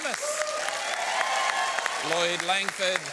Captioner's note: applause